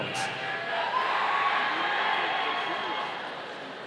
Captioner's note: audience cheering